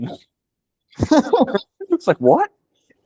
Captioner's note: laughing